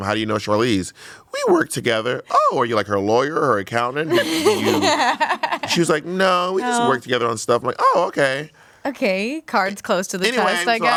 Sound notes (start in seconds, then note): 4.1 everyone laughs